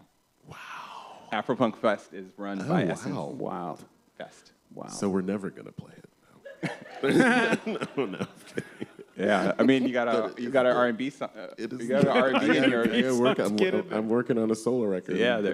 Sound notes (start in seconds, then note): 6.4 laughter